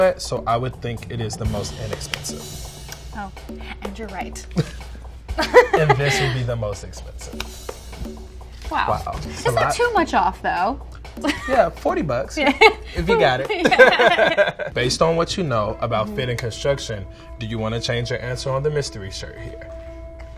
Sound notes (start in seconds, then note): 5.4 laughing; 13.5 laughing